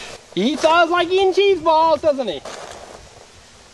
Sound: voiceover

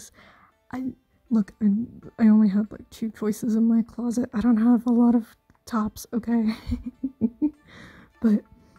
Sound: chuckle

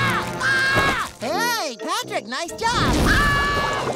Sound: screaming; screaming

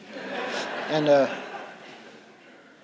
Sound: laughter

